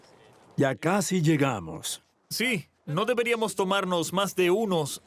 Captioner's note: Arabic spoken audio